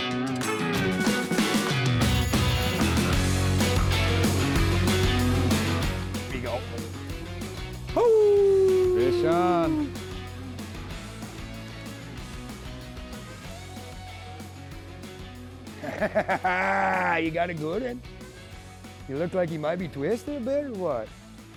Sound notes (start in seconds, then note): 0.1 upbeat rock music; 7.9 howling; 10.9 upbeat rock music